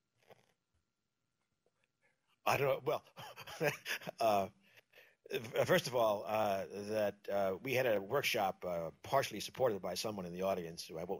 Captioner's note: pause; laughs